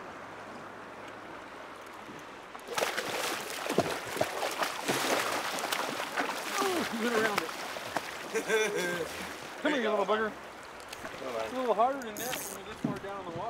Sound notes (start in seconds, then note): 0.8 water flowing; 2.6 fish splashing